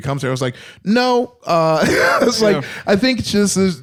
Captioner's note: laughs